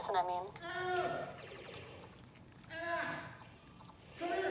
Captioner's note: Sound of Lennox calling Elena